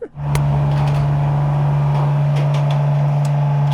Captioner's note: engine runs